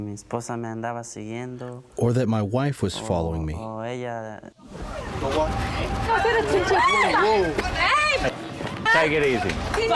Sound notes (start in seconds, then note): 6.1 shouting